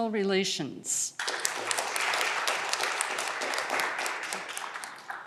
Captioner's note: audience clapping